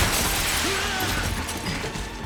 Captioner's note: grunts